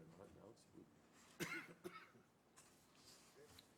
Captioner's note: coughs